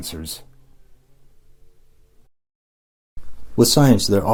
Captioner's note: silence